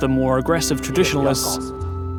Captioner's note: in mandarin